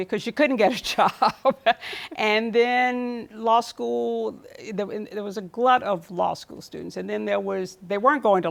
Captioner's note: laughs